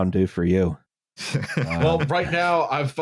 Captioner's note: laughter